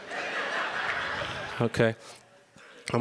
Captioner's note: audience laughs